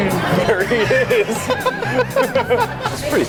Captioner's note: laughs